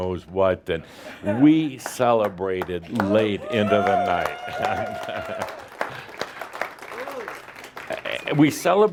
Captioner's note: cheers and applause from audience